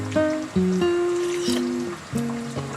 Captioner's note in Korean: 호록